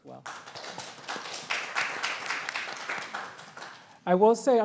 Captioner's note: audience applauds